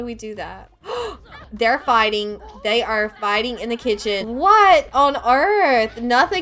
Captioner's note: gasp